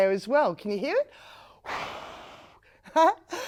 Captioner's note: air blowing sounds can be heard